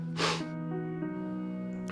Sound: sniffling

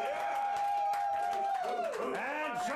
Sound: audience cheering

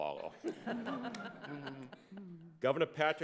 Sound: laughs

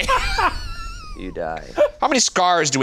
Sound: laughs

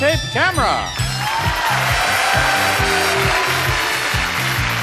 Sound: audience cheers

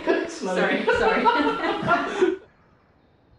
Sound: laughs

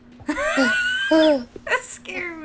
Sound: wheeze

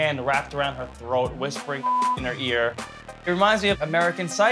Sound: beep

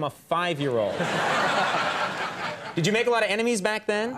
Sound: audience laughs

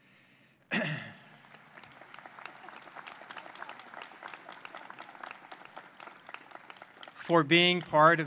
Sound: applause

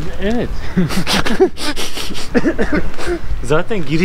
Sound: laughs

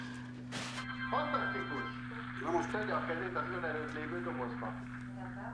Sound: speaking Hebrew

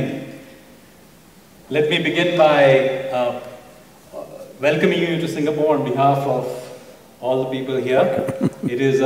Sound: Sadhguru laughs

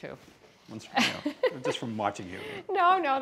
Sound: laughing

